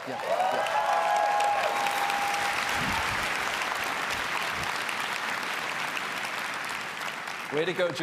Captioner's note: applause